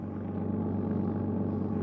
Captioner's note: motorcycle engine